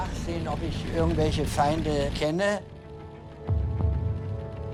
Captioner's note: speaking in foreign language